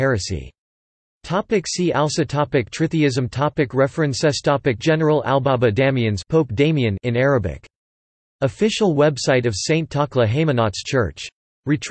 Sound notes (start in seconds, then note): 7.1 in Arabic